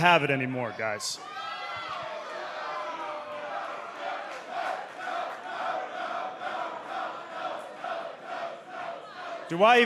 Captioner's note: crowd cheering